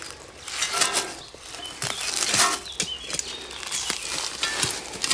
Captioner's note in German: Metall klirrt